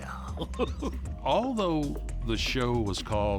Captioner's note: laughs